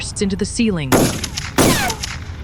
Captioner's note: three Gunshots